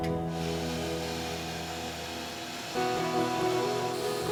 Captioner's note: tools whirring